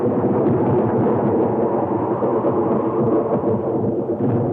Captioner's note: wind howling